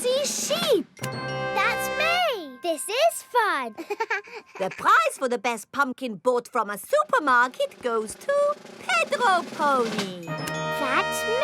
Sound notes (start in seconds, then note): 3.7 chuckles